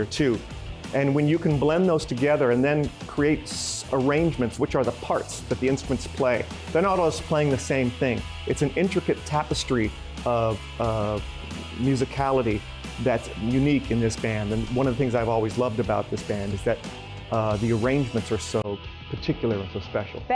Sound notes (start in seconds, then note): none